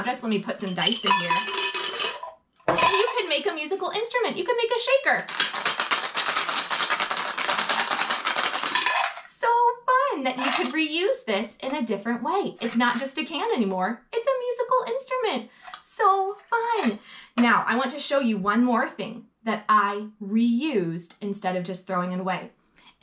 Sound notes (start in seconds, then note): 5.2 dice clattering